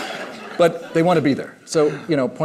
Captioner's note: laughter